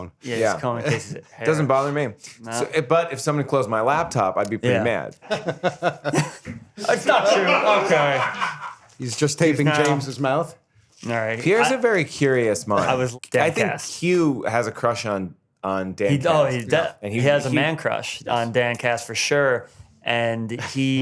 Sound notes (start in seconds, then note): 5.2 laughs